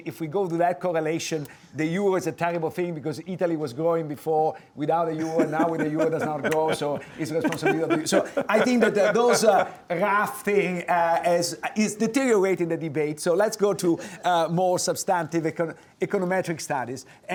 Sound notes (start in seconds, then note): 8.8 laughing